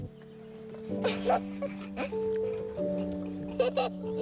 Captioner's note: child laughs